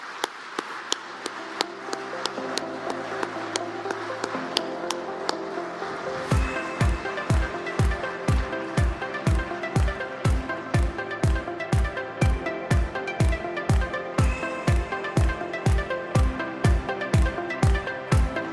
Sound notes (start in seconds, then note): 4.2 applause